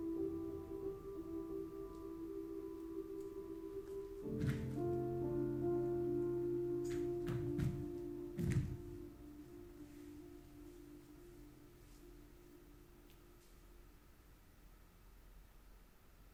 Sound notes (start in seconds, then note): 4.5 footsteps thumping